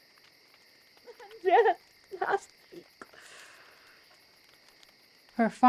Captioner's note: crying